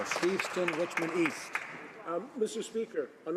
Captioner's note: some Applause